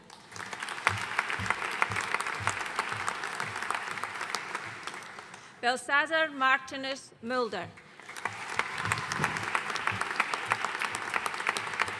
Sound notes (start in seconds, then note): 0.0 audience applauding; 7.8 audience applauding